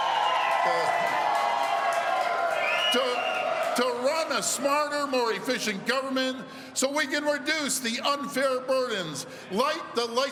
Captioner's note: cheers and applause